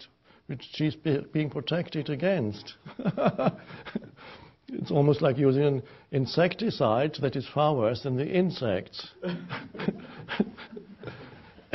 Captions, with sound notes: which she's being protected against. (laughing) It's almost like using insecticides that is far worse than the insects. (chuckles)